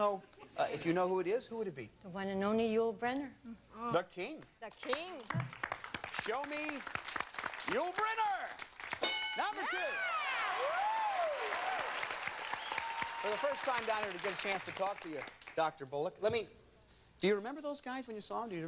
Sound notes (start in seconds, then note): 9.0 bell dinging; 11.2 crowd cheers